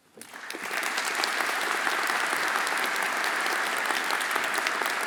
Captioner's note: everyone applauding